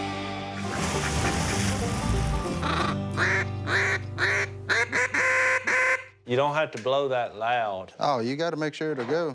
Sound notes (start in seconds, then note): 2.5 quacking